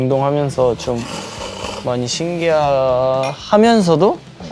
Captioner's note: slurp